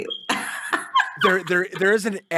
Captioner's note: laughs